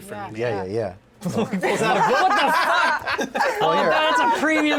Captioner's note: shouts